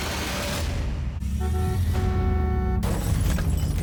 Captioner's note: car horn honks